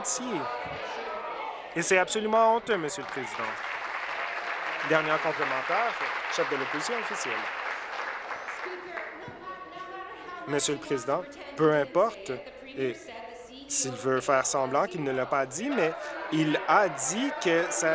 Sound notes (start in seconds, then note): 5.9 applause